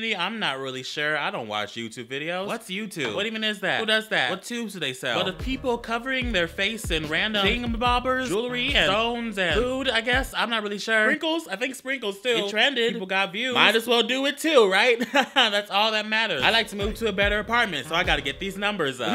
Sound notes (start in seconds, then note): 15.0 nervous laughter